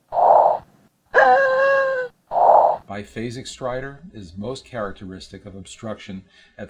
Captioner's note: sound of child labored breathing